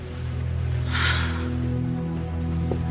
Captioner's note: Въздишки